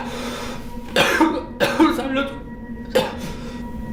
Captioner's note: in pain, coughing